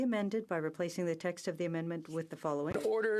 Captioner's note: speaking french